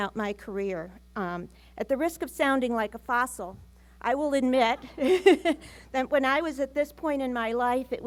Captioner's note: laughs